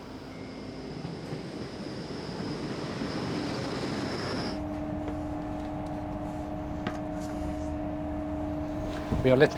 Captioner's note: train engine